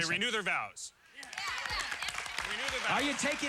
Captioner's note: cheering